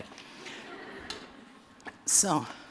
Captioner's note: laughter